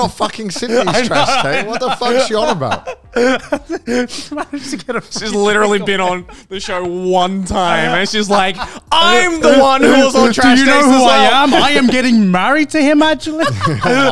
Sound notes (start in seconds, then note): 3.5 laughing